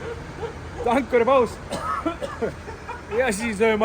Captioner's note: coughs